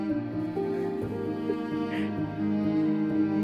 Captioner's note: laughs